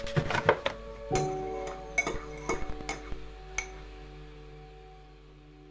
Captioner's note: spoon clinking cup